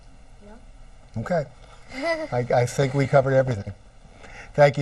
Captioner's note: laughs